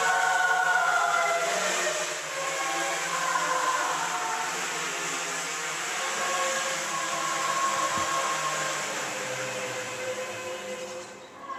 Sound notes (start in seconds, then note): 8.9 drone fades